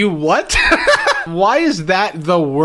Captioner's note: laughs